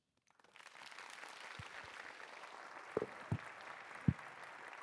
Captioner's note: applause